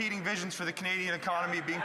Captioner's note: some Applause